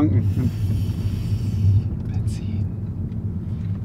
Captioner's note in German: flüstert